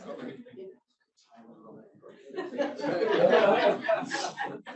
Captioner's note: speaking faintly; audience laughs